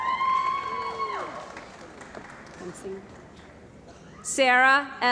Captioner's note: cheering & Applause